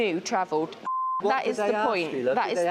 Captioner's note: beep